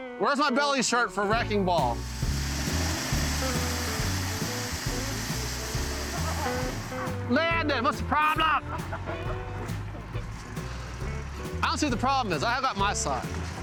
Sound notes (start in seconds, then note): 1.4 machine screeching; 5.9 soft music